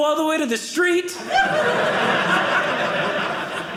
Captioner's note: audience laughing